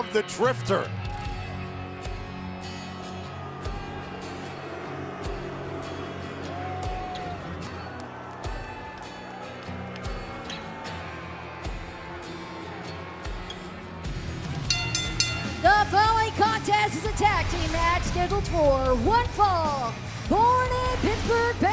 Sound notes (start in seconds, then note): 14.6 bell